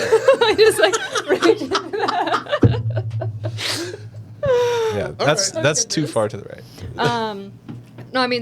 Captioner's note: laughter